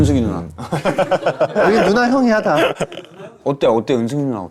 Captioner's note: confident; shivers